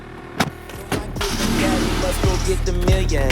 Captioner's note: car revs; hip hop music